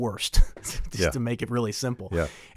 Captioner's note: chuckles